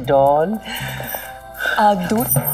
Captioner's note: Sighs